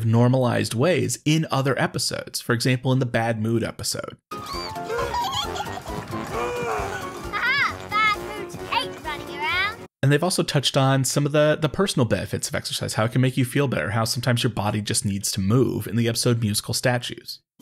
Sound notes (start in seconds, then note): 4.4 Bluey laughing